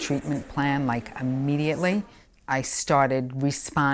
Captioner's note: pen etching